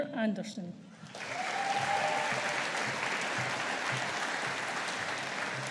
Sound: audience applauding

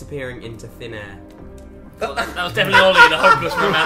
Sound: laughs

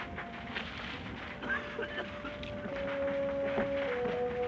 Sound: men coughing

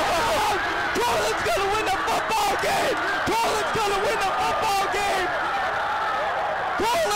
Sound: commentator shouting

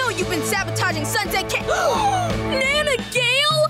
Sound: gasping

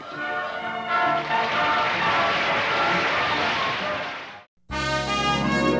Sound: applause

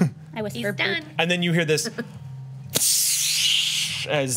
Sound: whooshes

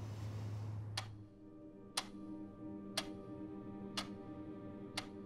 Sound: clock ticking

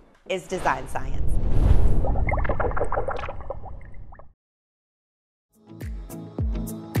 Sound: logo whooshing and bubbling; uplifting music

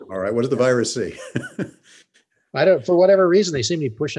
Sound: chuckles

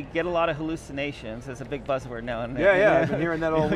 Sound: laughs

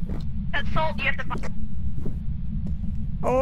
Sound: over Radio

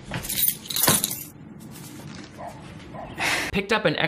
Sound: keys jingling

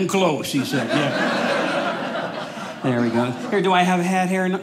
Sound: audience laughing

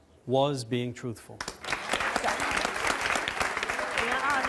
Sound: audience applause

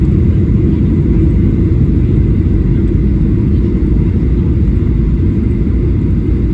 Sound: airplane Engine

